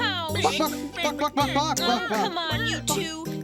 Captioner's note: chickens clucking